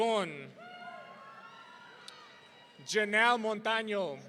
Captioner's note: audience cheering